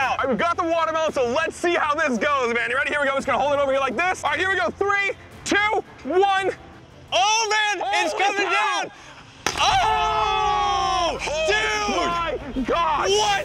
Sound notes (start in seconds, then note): 8.6 watermelon splats; 9.4 guys yelling